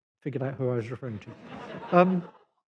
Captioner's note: laughter